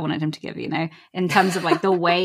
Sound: laughs

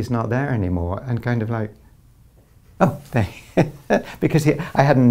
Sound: laughs

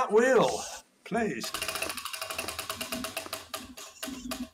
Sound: wheel ticking

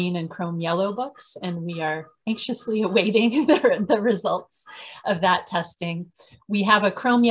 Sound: laugh

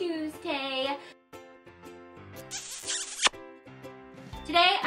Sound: lips smacking

